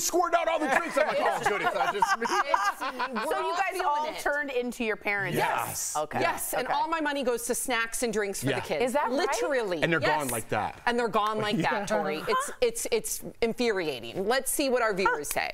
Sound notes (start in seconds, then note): 11.4 laughter